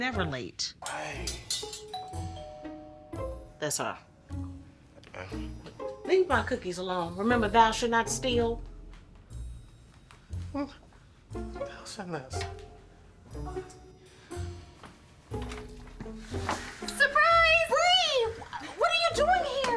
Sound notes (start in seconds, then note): 1.5 playful music; 1.9 doorbell rings